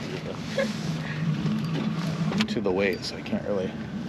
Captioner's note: boat engine idling